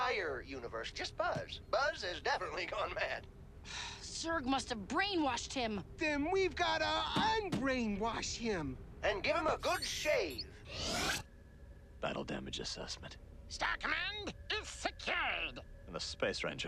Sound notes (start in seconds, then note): 4.6 sighs